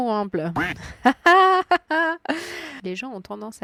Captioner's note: laughs